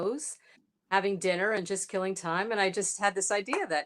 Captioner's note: none